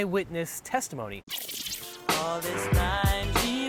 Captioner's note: tape squeals backwards